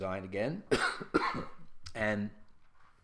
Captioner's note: cough Cough